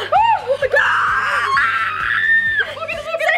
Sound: screaming

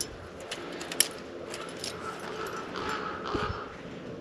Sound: crow cawing

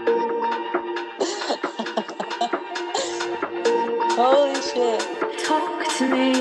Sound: laughs

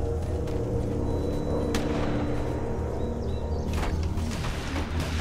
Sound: distant gunshots

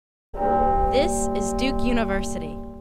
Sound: bell rings

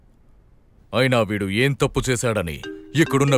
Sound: phone ringing

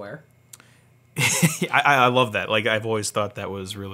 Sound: laughs

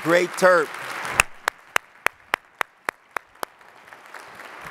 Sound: audience claps

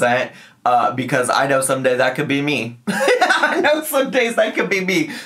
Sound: laughs

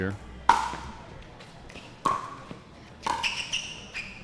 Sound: ball bouncing

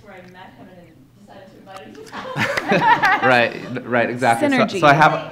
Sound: laughter

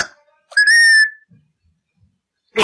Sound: squeaking

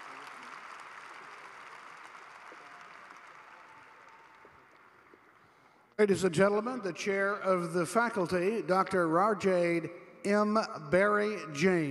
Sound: applause

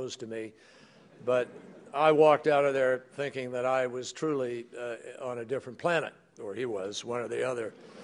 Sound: laughter

